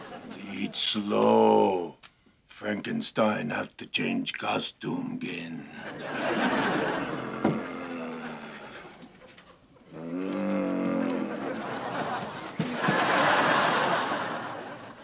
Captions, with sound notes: Eat slow. Frankenstein have to change costume again. [ Growling ]